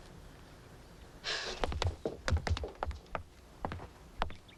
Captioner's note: Tommy sighs